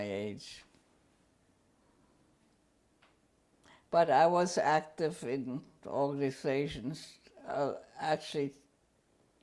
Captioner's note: pauses for 3 seconds